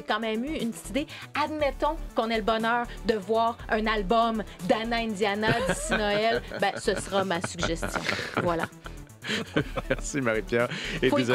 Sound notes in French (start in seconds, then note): 5.4 rires